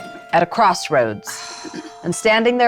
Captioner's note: participant sighing